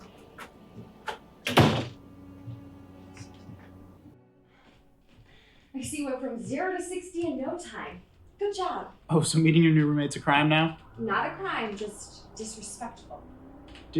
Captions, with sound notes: (door closes) I see you went from zero to 60 in no time. Good job. Oh, so meeting your new roommate's a crime now? Not a crime. Just disrespectful.